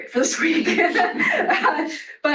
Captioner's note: laughter